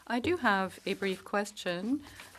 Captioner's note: speaking in French